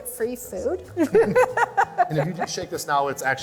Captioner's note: laughter